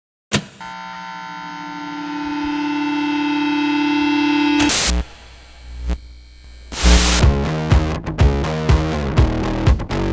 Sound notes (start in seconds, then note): 0.6 radio waves buzzing; 6.8 upbeat music